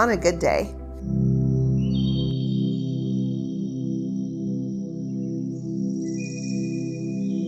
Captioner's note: gentle music; birds chirping sweetly